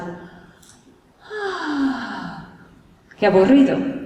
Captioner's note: sighs